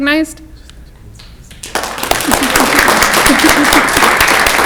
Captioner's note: clapping